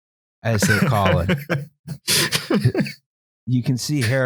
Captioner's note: laughs